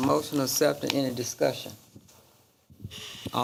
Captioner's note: papers rustling